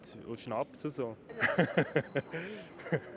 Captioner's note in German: lacht